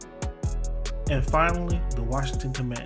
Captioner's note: voiceover